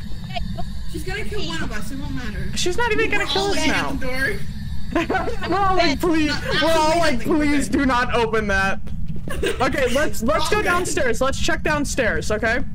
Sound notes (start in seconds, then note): 5.1 laughs; 9.2 giggles